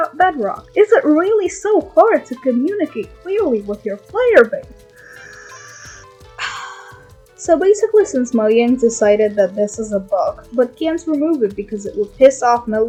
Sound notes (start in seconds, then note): 6.4 sigh